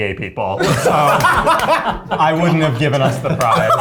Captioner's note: laughs